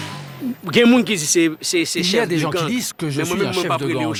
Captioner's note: French spoken audio